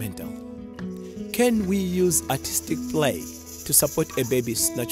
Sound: rattle rattling

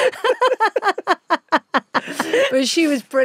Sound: both laughing

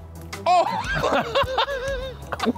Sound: gasps; laughs

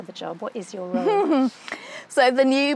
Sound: laughs

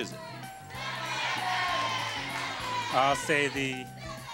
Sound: audience shouting

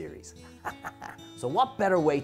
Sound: devilish chuckle

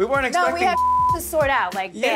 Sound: beep

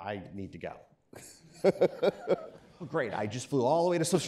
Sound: laughing

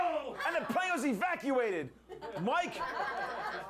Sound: laughter

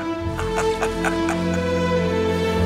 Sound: laughing

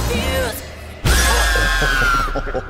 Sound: screams; both chuckling

